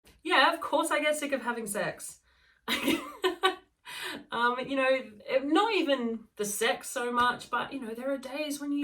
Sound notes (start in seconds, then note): 2.7 laughing